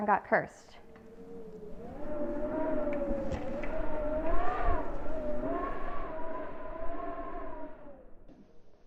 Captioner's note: wind howling